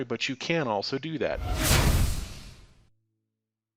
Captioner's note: air whooshing